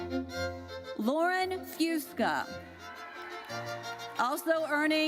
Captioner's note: audience cheers